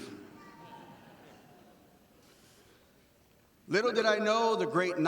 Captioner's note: audience laughing